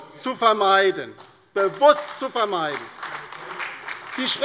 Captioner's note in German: Beifall bei der LINKEN und der SPD